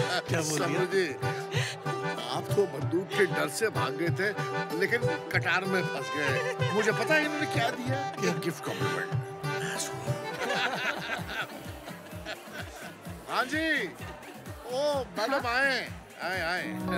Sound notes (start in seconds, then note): 10.4 Laughing